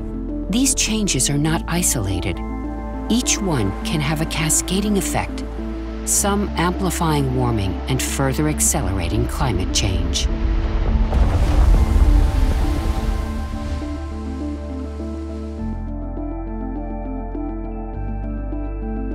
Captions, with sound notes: These changes are not isolated. Each one can have a cascading effect, some amplifying warming and further accelerating climate change. (earth rumbles) (waves crashing) (gentle music)